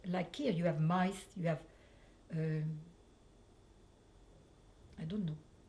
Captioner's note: pauses for 3 seconds